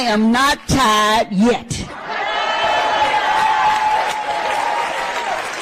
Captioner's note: cheering